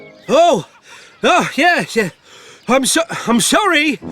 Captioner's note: struggling